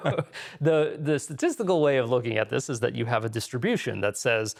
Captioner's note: laughing